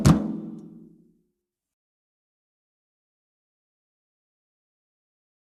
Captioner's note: music abruptly stops